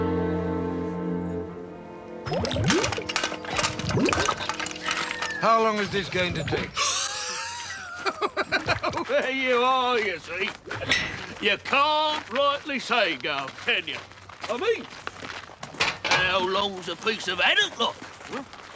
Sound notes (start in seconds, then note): 2.2 water gurgles; 6.9 laughs